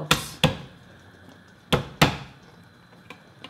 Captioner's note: hand thumping